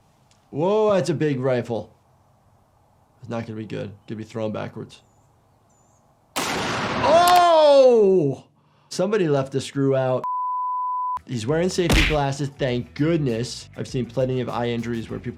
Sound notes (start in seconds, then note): 6.3 gunshot cracks; 10.2 production beep